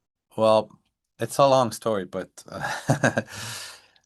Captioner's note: chuckles